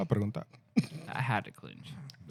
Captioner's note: speaking Spanish